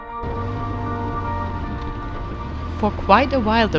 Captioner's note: engine rumbling